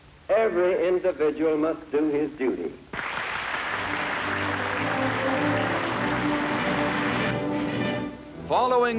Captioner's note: applause